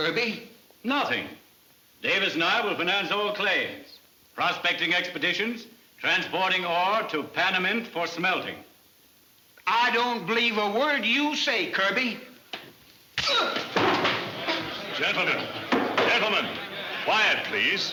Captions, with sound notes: - Nothing, Davis and I will finance all claims, prospecting expeditions, transporting ore to Panamint for smelting. - I don't believe a word you say, Kirby. (blow cracking) (man shouts) - Gentlemen, gentlemen, quiet please.